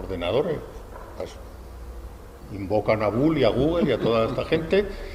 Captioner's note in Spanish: risas